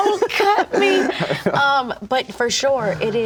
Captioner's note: laughs